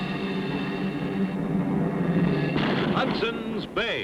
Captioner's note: cannon firing; dramatic orchestra music